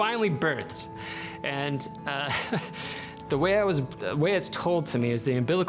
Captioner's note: chuckles